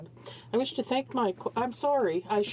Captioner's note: speaking French